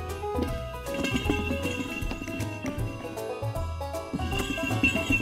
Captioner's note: bells jingling